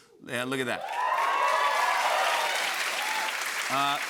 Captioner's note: cheers and applause